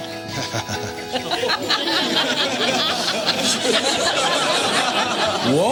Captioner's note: students laugh